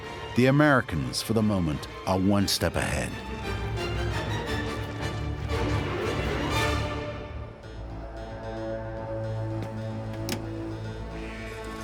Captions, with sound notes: the Americans for the moment are one step ahead. [click]